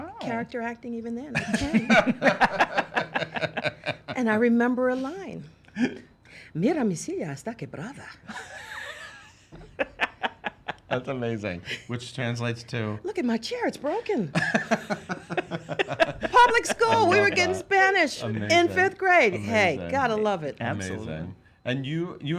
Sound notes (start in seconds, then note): 1.4 laughs; 6.7 speaking Spanish; 9.5 laughs; 14.4 laughs